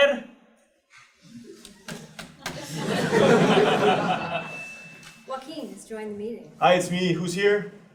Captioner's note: laugh